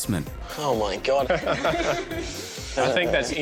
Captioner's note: laughing